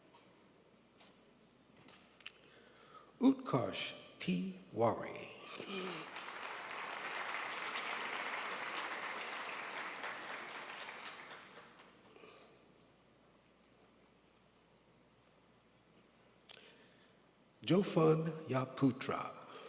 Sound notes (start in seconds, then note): 5.6 crowd applauds